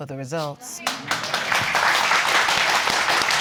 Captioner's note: audience clapping